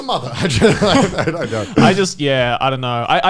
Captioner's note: laughing